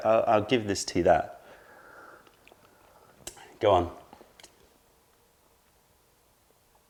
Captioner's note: sips tea